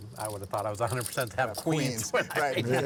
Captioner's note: laughs